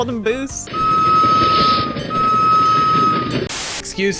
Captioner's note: train whistles